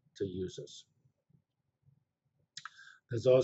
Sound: pause

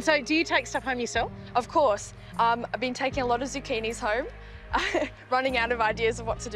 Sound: chuckles

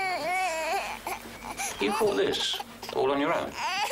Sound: baby crying

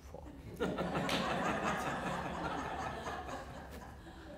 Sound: audience laughter

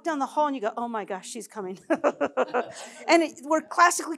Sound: laughs

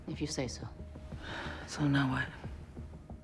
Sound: sighs

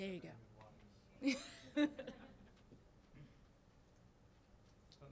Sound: audience laughing

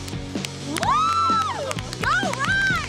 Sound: girls cheer

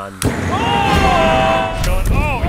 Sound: boom

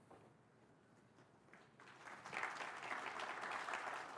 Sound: applause

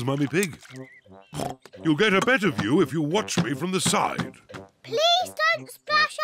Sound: oinks

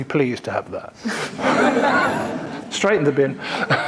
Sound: audience laughing

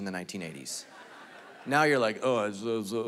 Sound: congregation laughing

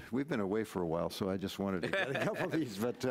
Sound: laughing

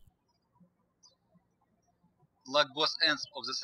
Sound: birds chirping

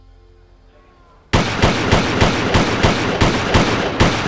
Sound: gun firing

